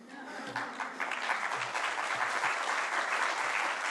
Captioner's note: applause